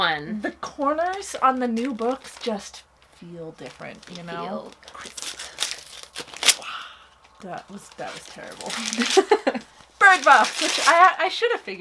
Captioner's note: laughs